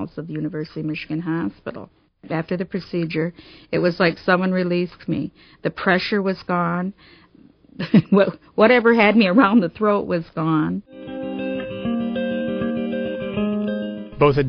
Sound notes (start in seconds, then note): 9.0 laughing; 10.8 gentle music